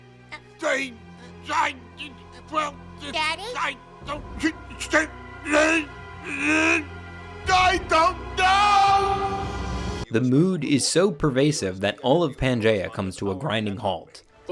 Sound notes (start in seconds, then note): 4.5 Earl mumbling; 9.0 ominous music